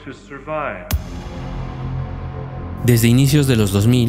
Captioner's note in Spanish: audio de hablando del fin de los tiempos